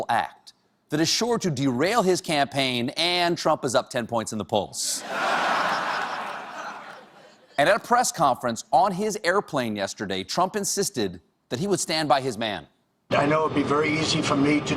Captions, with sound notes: THIS IS A SHAMEFUL ACT THAT IS SURE TO DERAIL HIS CAMPAIGN AND TRUMP IS UP 10 POINT IN THE POLLS. ( LAUGHTER ) AND AT A PRESS CONFERENCE ON HIS PLANE YESTERDAY, TRUMP INSISTED THAT HE WOULD STAND BY HIS MAN >> I KNOW IT WOULD BE VERY EASY FOR ME TO DISCARD PEOPLE.